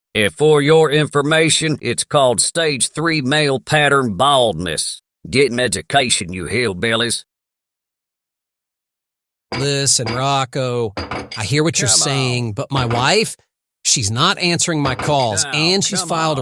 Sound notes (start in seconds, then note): 11.0 banging noise in background